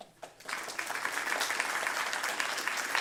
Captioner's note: audience clapping